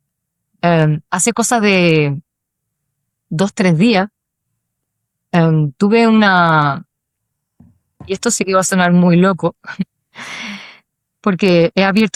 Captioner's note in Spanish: suspiro